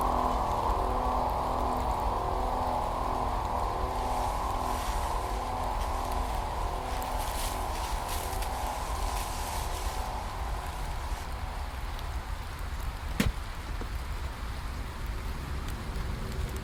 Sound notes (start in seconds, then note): 13.1 soft thudding